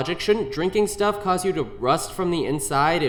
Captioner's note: none